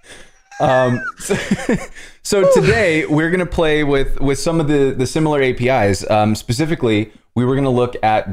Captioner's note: laughter